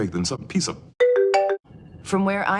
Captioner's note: Apple Marimba Ringtone